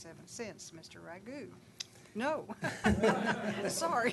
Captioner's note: laughing